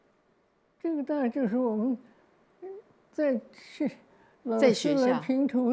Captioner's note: Mandarin